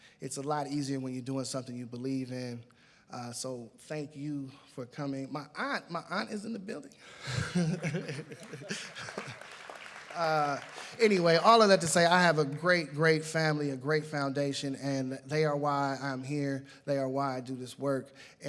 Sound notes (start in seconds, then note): 7.8 applause